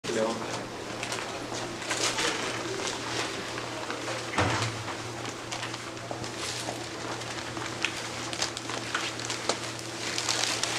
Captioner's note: background chatter